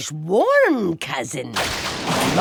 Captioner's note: thunder crash